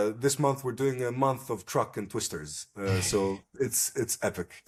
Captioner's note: laughs